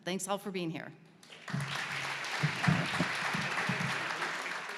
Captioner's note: audience clapping